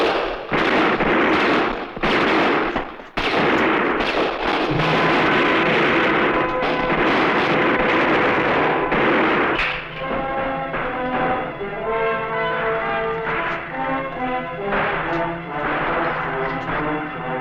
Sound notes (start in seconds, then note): 4.5 intriguing music; 6.6 gunfire